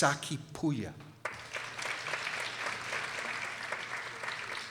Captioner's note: people applauding